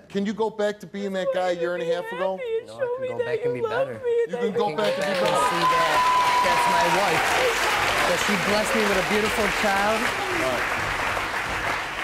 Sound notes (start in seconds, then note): 4.8 audience cheers